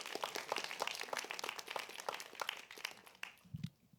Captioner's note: applause